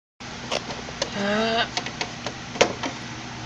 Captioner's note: groans